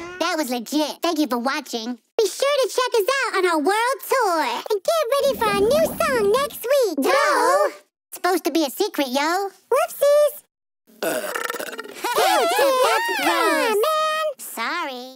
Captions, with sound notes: That was legit. Thank you for watching. Be sure to check us out on our world tour. And get ready for our new song next week. Doe! It's supposed to be a secret, yo. Whoopsies. [belching] [laughing] - Come on, man. - Sorry.